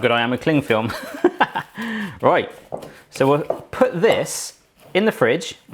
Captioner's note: chuckles